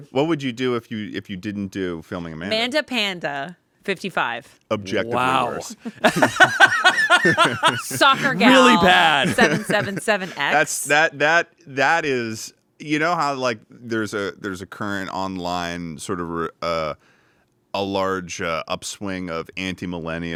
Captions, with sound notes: - What would you do if you didn't do FilmingAmanda? - MandaPanda55. - Objectively worse. - Wow. (everyone laughs) - SoccerGal. - Really bad. - 777X. - That is... You know how like there's a current online, sort of a large upswing of anti-millennial rhetoric?